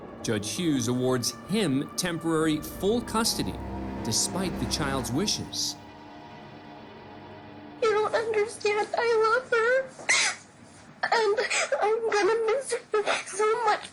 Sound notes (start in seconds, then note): 8.1 sobbing